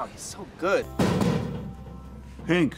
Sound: knock knock

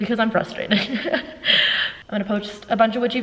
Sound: laughs

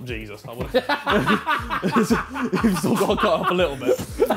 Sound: laughing

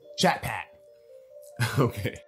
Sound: chukles

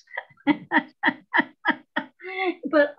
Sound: laughs

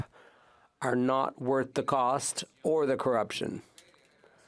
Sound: speaking French

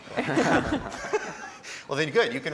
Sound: laughter

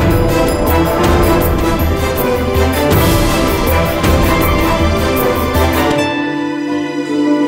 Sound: cicada

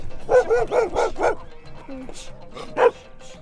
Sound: dogs barking

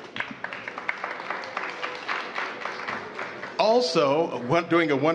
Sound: applause

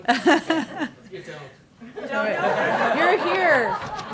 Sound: laughter

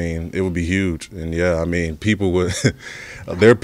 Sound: laughs

